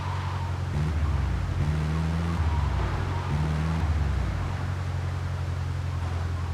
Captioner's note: car engine roaring